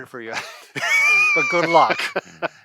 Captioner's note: both laugh